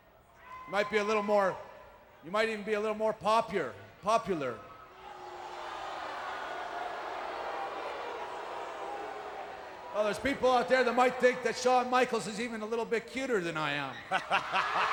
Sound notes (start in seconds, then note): 4.2 applause